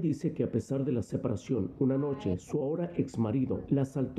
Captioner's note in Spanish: habla en ingés